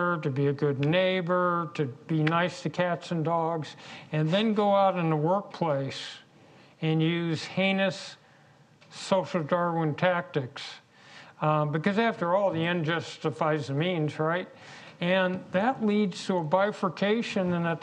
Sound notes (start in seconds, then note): none